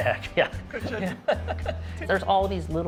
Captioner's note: laughs